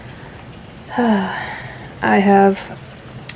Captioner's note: sigh